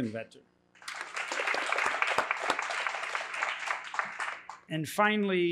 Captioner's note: applause